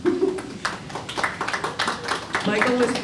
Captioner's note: applause